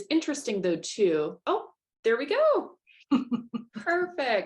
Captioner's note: laughter